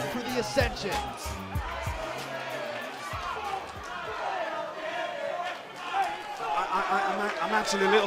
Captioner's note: crowd cheering